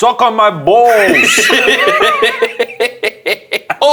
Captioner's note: laughing